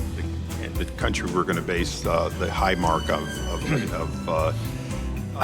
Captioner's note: laughs